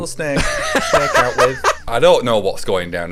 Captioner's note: laughing